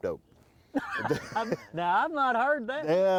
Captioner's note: laughs